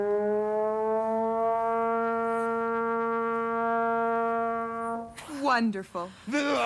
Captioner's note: laughs